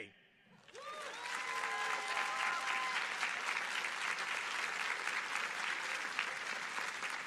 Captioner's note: audience applauding